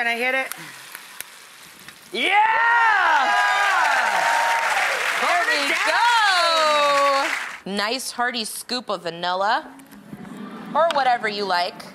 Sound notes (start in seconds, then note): 2.2 audience cheers